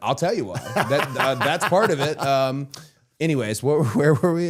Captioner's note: Matt laughing